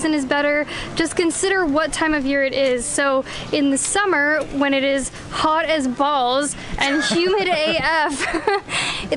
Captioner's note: laughter